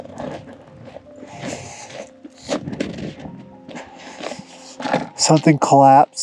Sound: footsteps crunching

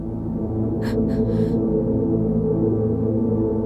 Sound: sobbing

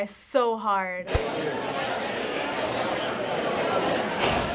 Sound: students chatter

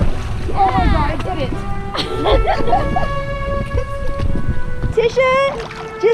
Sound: laughing

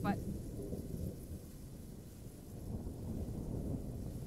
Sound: wind blowing

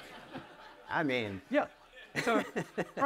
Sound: laughs

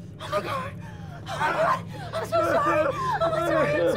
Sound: Carlos muttering

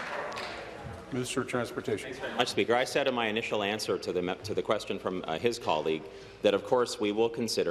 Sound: applause

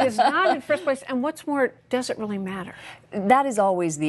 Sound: laughter

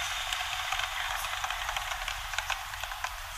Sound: machine sound

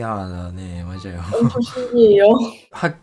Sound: Korean

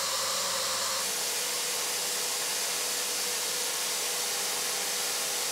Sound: vacuum cleaner whirring

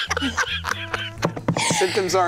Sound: laughing

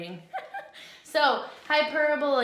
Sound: laughs

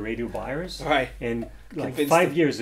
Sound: laughs

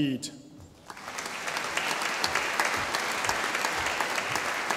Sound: audience applauding

